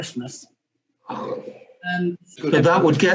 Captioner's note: sigh